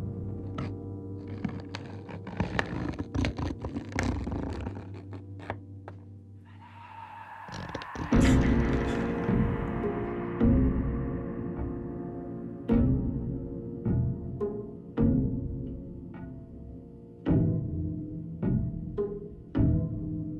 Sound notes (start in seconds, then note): 1.1 scratching; 7.8 gasps; 10.0 suspenseful music; 17.2 suspenseful music